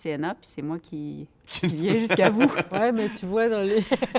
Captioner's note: laughter